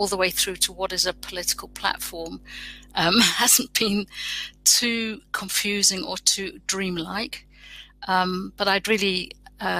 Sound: erm

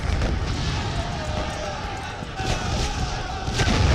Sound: loud explosions and shouting

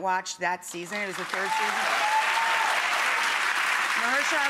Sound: cheering and clapping

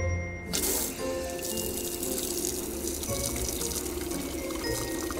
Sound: water pattering

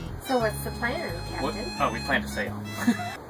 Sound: silly sound; laughs; beeping

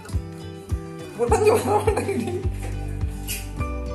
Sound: laughing

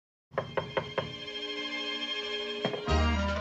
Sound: knocking at door

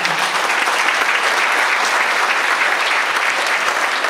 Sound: audience applauds

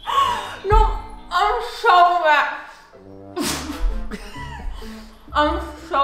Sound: both laughing; both laughing

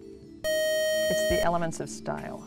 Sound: buzzer

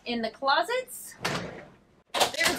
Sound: closet door rustles

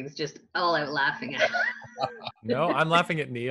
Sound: laughing

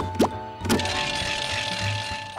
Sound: bell ringing

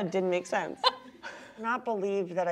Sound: laughs

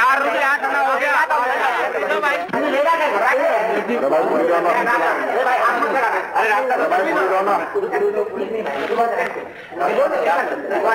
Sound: the clamor intensifes as people continue to demand food

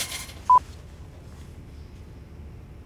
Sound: beeping

